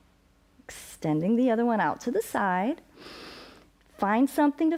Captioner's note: inhales